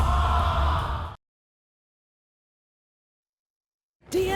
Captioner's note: audience groaning